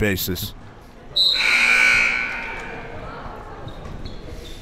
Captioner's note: buzzer